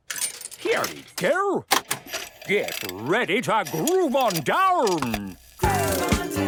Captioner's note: clicks, whirring; disco music plays